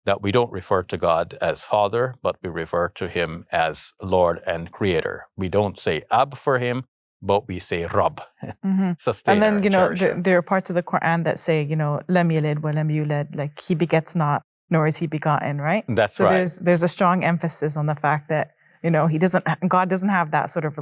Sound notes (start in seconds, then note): 12.5 speaking Arabic